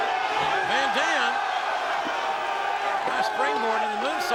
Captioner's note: crowd gasping